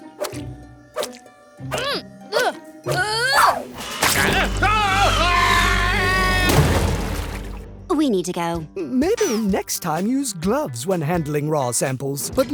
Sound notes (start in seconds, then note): 4.0 screaming; 6.4 crash